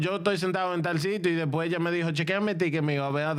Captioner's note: speaking In Foreign Language